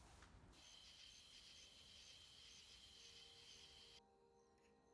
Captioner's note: crickets chirping